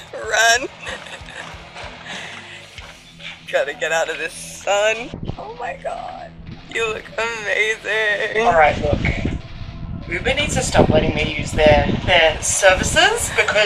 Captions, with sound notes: (Squeals) Run! Gotta get out of this sun - Oh my god, you look amazing! Alright look, Uber needs to stop letting me use their services